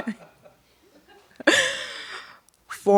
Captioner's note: laughter